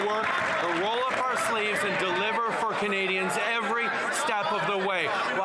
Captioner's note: some Applause